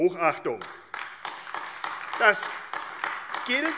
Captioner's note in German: Beifall AfD